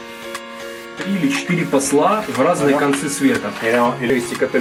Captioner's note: russian talks